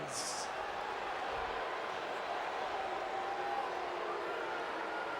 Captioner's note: crowd vocalizing